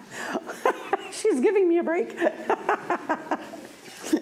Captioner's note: laughs